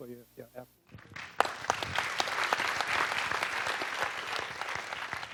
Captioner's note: audience applauding